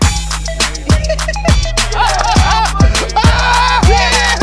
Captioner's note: laughter, cheers